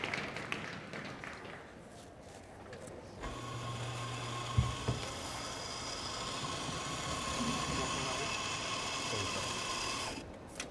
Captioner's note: cheers and applause